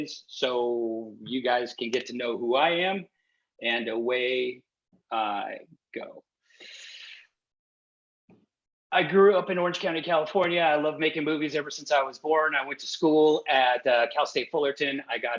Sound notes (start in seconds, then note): 6.4 inhales deeply